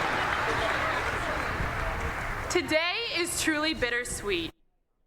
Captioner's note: applause